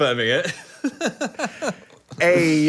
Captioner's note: Phil laughs